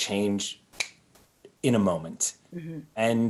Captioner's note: snaps finger